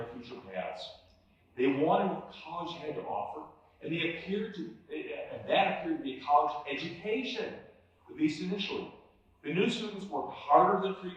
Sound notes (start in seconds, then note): none